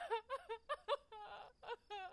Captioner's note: Mabel sobs